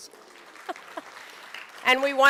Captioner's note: applause